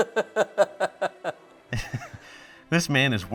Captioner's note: narrator laughs; laughs